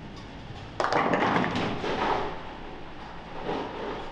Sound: pins clattering

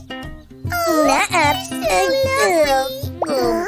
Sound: moaning

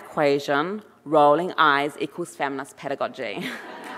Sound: chuckles; audience laughing and applauding

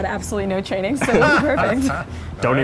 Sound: laughter

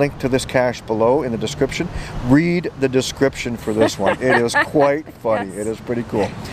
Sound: laughing

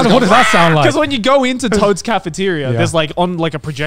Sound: squawks

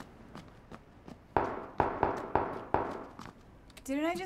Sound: guns firing in the distance

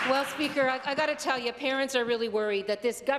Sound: applause

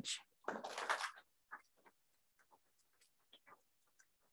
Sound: group applauds

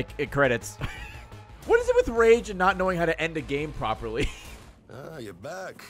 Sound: laughs

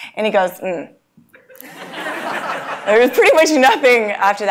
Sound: laugh

